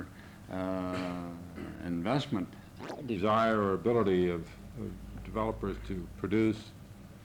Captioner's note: camera noise